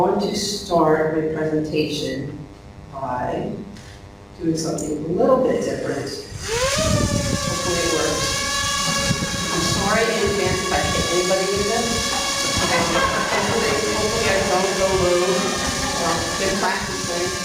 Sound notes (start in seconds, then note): 8.4 drone noise; 12.0 laughing